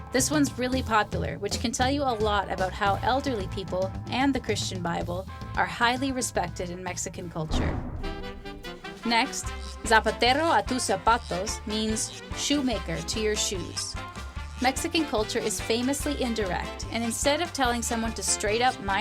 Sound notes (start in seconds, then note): 8.6 mexican music; 10.0 foreign language